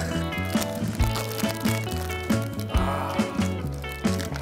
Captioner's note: just listen to that munching sound